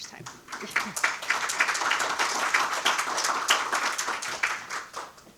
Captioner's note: audience applauding